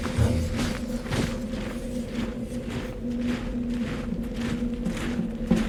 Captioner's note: marching